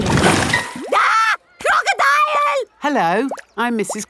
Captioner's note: screams